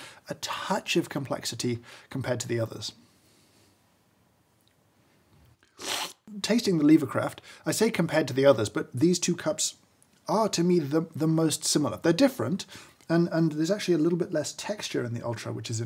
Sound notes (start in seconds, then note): 5.6 slurping